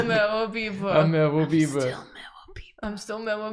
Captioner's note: whispering as Merobiba